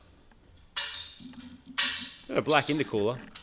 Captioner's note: clattering